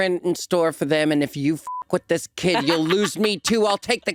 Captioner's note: beep